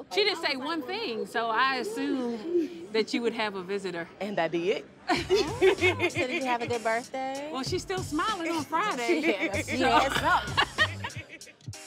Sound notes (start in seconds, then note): 5.1 laughs; 9.0 laughter